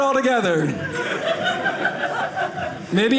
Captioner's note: audience laughing